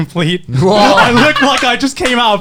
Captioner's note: laughs and claps